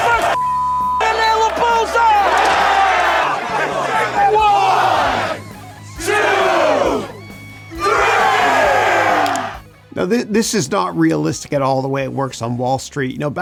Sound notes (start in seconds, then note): 4.6 crowd